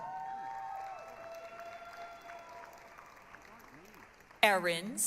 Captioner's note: applause, cheering